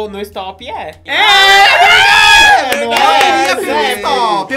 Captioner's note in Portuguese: gritos